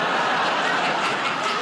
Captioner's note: buzzer